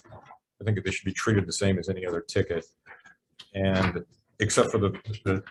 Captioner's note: none